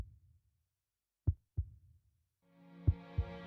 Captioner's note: heartbeat